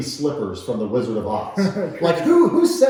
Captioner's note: laughing